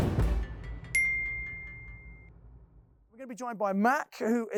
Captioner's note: bell ringing